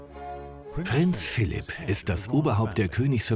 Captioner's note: voiceover